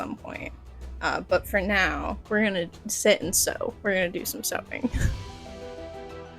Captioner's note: little laugh